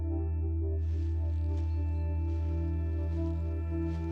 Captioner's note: ground crunching